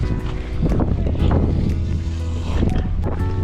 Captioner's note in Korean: 슈웃~